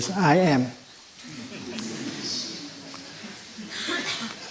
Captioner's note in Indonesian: Suara tertawa